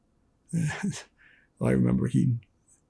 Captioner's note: laughing